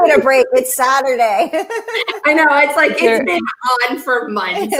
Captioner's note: laughing